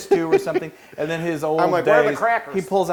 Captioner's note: laugh